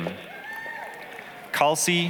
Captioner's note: applause, cheering